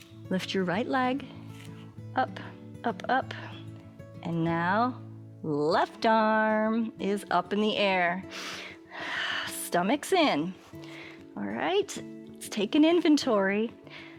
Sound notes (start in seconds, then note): 8.3 inhales and exhales